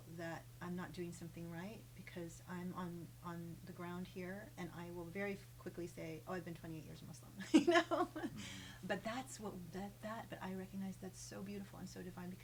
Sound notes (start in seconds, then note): 7.4 laughs